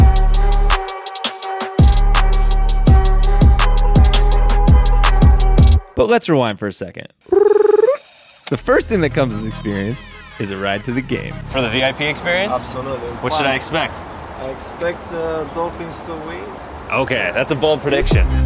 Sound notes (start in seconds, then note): 0.0 hip hop beat; 7.3 rolls tongue